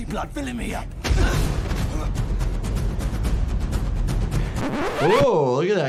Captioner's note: intense dramatic music; blow thuds